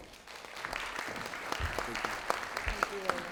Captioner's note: audience clapping